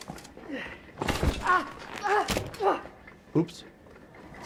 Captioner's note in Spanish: médico gimiendo